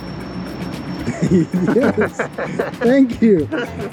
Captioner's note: both laugh